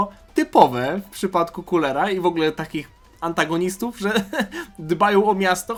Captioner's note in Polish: śmiech